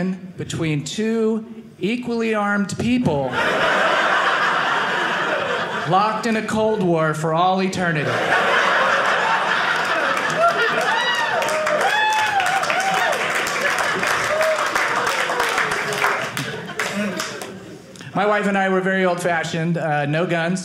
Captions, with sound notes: between two equally armed people (audience laughing) locked in a Cold War for all eternity. (audience laughing) (audience cheering) My wife and I, we're very old-fashioned. No guns.